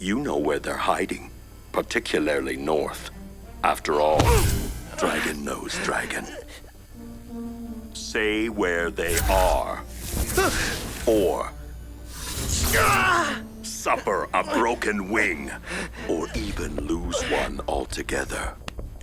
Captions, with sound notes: You know where they’re hiding. Particularly North. -[Brax groans] -After all... Dragon knows Dragon. Say where they are. -[Brax gasps] -Or... -[Brax yells] -[magical buzzing] Suffer a broken wing! Or even lose one altogether.